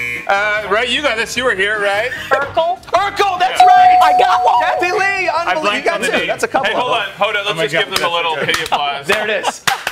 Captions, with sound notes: THIS IS FOR -- 7 ACROSS. >> WHERE DOES IT COME FROM OVER HERE? >> A RUNNING START. [ LAUGHTER ] >> GO AHEAD. >> 7 ACROSS, FOUR LETTERS. THINK FAST. >> I'M GOING TO SIT ON IT.